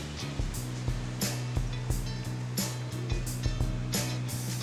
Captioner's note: leaves rustle